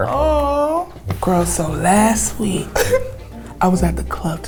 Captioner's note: giggles